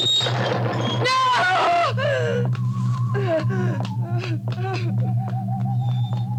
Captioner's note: whimpers